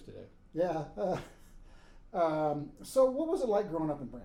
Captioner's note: laughing